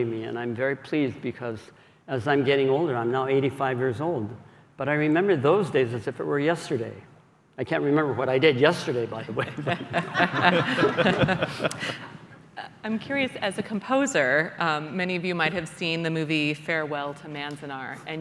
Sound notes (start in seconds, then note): 9.4 laughter